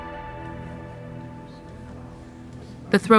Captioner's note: voices murmuring